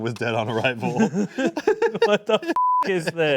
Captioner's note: both laughing